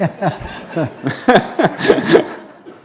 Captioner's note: laughter